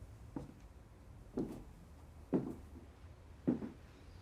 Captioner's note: footsteps clicking